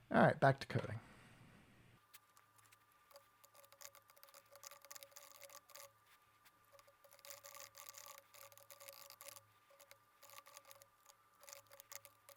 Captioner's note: typing sounds